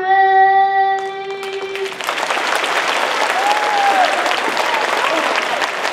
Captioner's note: audience applauding